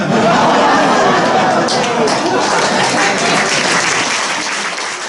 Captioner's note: laughter and applause